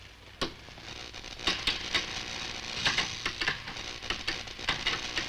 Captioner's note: computer crackling